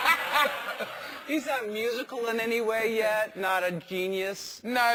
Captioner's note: laugh